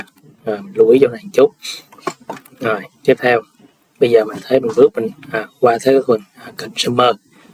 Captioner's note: sniffs